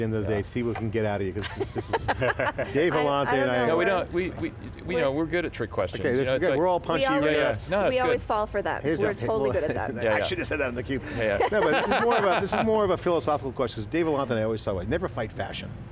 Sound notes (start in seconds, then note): 1.2 laughter